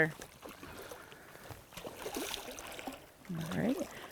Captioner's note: water splashing